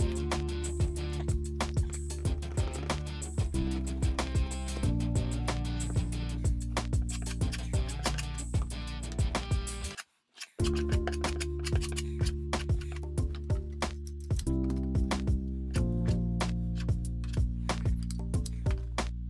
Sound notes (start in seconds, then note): 0.1 gentle music; 7.3 tool scraping; 13.6 gentle music; 16.4 tool scraping